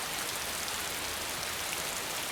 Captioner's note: raining